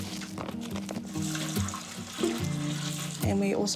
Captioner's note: liquid sloshes